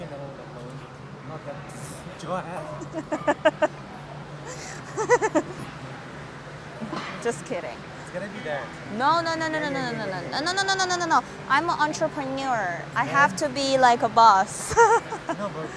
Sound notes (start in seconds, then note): 2.8 laughing